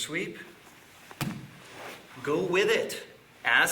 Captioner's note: loud thumping